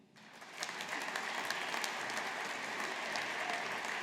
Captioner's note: audience applauding